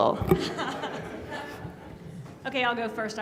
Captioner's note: laughing